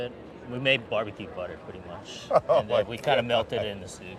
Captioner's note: laughing